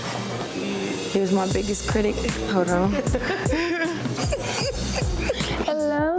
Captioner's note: laughs